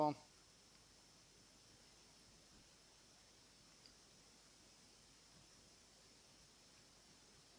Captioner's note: silence